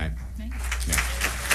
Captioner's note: applause